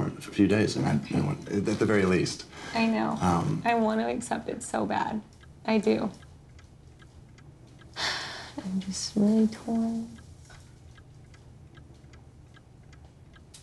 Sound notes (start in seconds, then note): 8.0 sighs